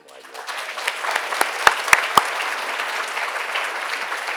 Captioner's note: attendees applauding